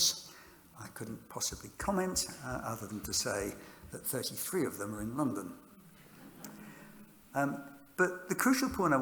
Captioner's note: laughter